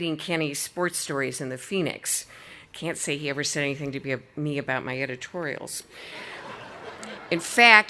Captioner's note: audience laughing